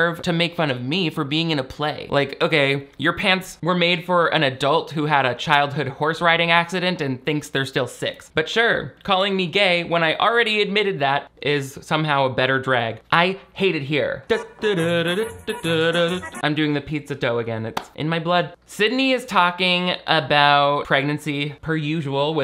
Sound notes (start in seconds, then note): 14.2 playful vocalizing; 14.4 upbeat Italian music